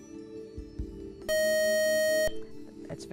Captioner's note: beep